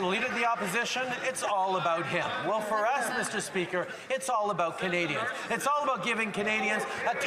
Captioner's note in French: voix de l'interprète